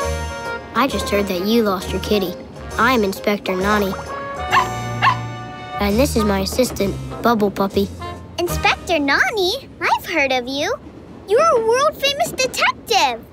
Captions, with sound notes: I just heard that you lost your kitty. I'm Inspector Nonny. [barking] And this is my assistant, Bubble Puppy. Inspector Nonny. I've heard of you. You're a world famous detective.